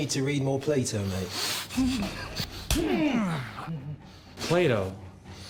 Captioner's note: groaning